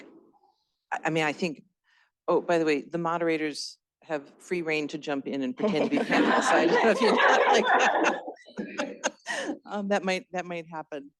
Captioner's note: laughter